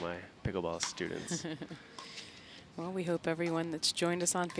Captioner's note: laughing